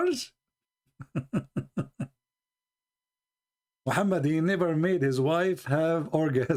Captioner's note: Ketawa